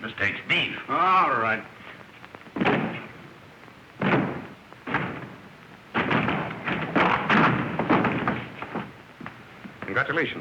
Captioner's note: hitting door